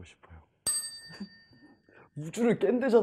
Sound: chime

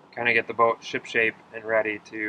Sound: none

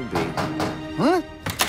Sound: knock on door

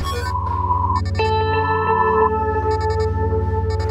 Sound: phone line ringing

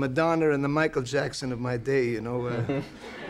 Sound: chuckles; crowd laughs

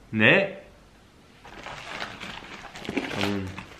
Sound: rustle

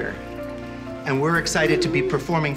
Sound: chatter

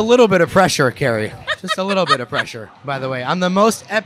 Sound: laughing

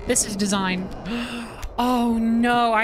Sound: gasp

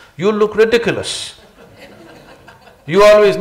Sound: laughter

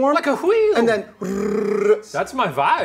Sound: making noise by rolling tongue

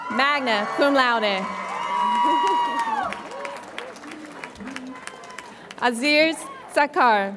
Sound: audience applauds and cheers

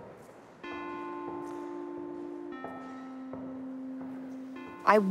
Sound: soft electronic tone

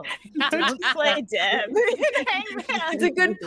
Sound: all laughing

